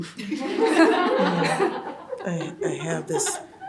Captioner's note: audience laughs